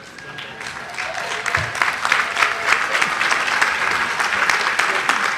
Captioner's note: audience applauding